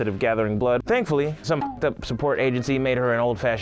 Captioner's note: beep